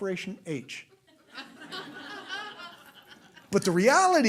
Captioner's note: laughter